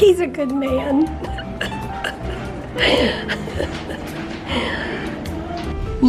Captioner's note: laughing